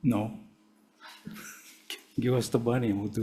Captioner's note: chuckling